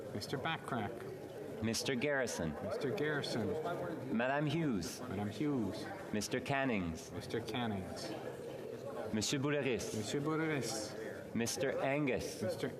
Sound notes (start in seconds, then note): 2.1 calling of recorded vote